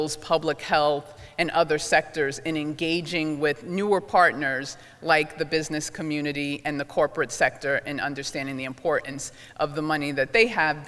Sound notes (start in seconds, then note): none